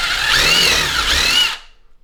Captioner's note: drill Whirring